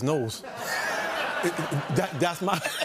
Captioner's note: laughter and applause